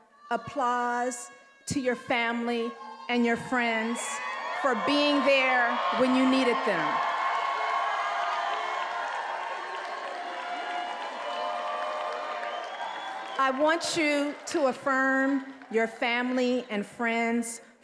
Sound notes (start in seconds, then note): 7.5 attendees applauding and cheering